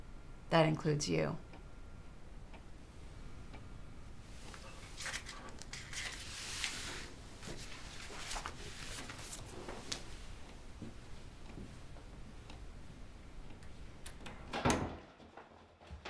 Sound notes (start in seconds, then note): none